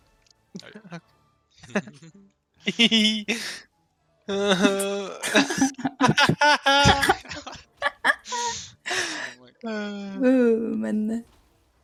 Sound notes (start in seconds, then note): 5.1 hahahaha; 5.2 hehehehe